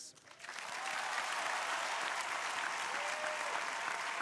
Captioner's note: crowd applauding